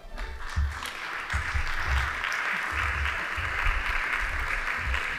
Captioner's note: audience applauding